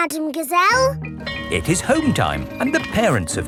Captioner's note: bell tolling